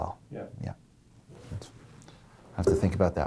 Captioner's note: voiceover